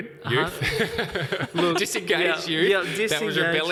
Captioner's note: laughing